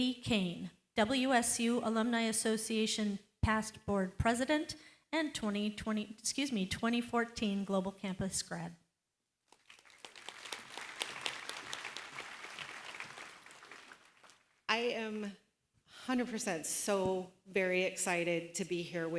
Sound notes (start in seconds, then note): 9.5 applause